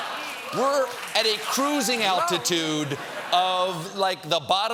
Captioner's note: laughter